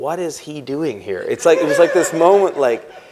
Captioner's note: laughter